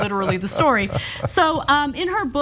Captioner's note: laugh